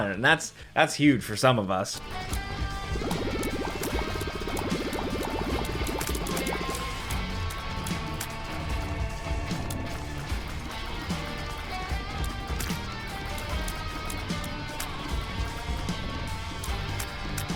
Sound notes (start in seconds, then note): 2.2 aggressive music; 3.1 tears splatting